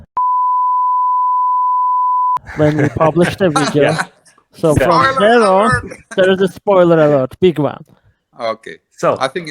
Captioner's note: laughing